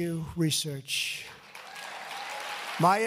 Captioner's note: applause